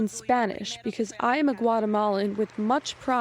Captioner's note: speaking in spanish